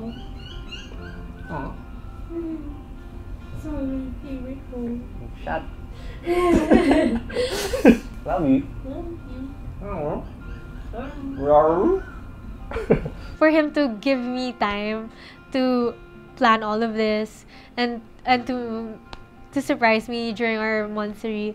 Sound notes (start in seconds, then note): 6.2 laugh